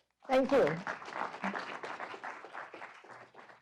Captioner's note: applause